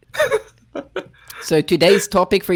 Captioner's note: laughs